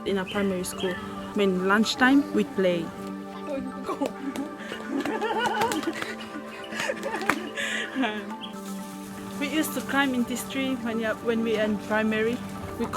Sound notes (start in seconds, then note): 3.7 slow paced music; 5.2 women laughing